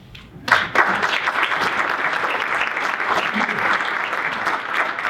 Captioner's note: audience applauding